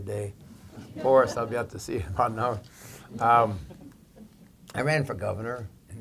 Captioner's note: laughter